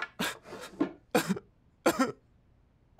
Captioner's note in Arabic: بكاء